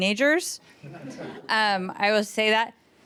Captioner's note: panel laughs